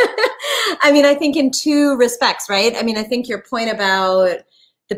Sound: chuckle

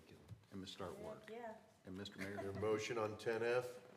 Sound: laughter

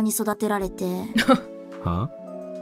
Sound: chuckles

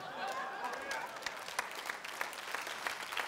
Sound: applause

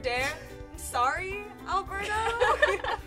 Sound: laughter

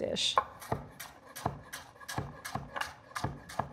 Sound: knife chopping

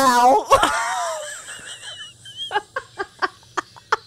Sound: panel laughing

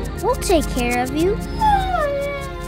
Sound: whining

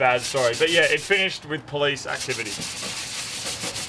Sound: sanding noise

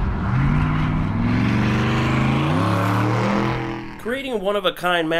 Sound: engine revving

